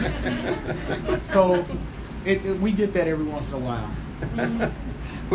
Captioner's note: laughter